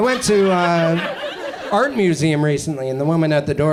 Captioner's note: audience chuckles